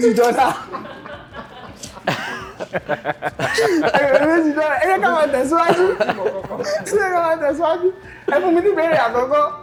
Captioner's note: laughter